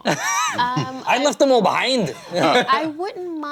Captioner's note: laughs